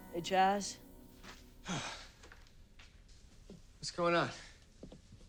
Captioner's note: sighs